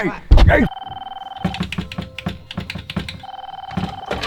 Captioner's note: phone ringing